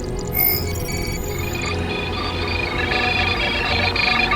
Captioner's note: system beeping